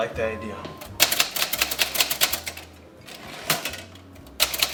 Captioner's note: typewriter clicking